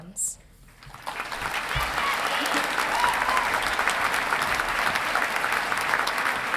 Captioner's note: audience applauding and cheering